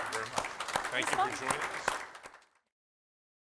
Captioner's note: applause